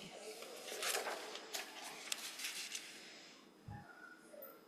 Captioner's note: papers rustling